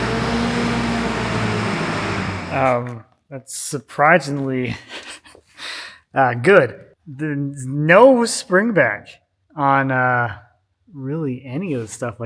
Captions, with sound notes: That's surprisingly (chuckles) good. There's no springback on really any of the stuff I got here.